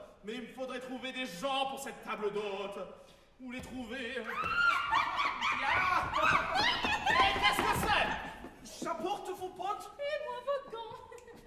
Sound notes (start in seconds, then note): 4.4 GABRIELLE screams, chased by FRICK